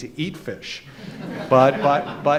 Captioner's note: crowd laughs